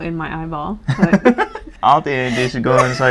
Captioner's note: laugh